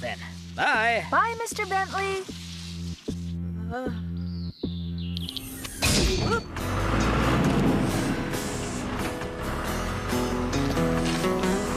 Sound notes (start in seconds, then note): 5.8 clang